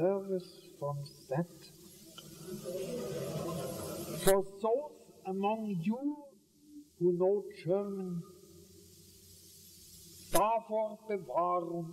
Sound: German

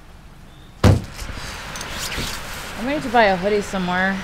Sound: car door slams

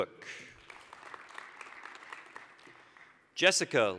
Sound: applause

